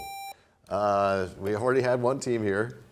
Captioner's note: buzzer sound